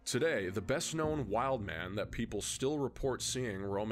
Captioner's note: none